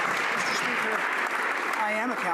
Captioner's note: some Applause